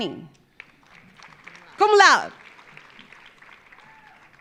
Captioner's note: audience applauding